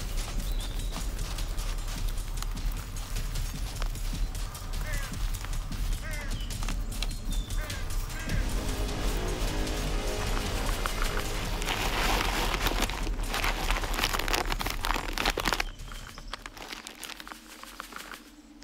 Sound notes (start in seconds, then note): 5.0 birds squawking; 8.4 intense music; 10.6 bag crinkling; 15.6 birds chirping